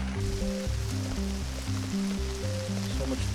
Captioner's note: rain falling